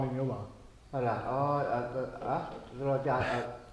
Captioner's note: awkward stammering